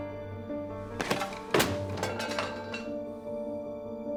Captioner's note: thudding